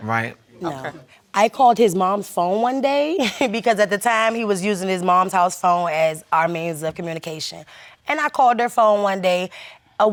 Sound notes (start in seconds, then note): 3.0 laughs